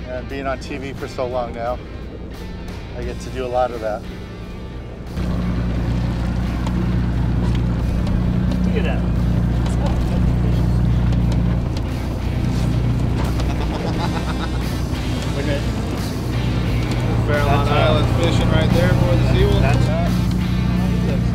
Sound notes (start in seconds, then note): 6.3 helicopter whirs overhead; 13.2 black hat fisher laughs